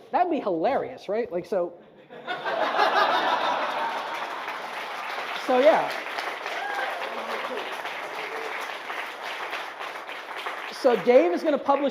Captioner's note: audience laughs and applauds